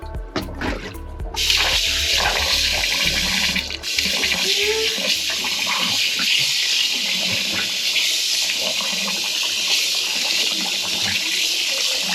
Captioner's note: water running